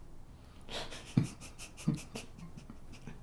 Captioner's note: laughter